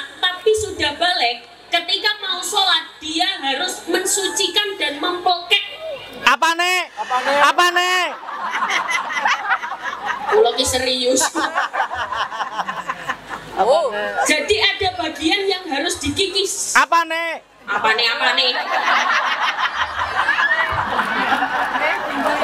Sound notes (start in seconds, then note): 8.1 laughs